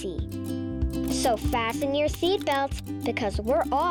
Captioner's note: latches clicking